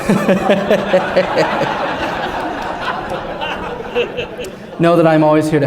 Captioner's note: laughter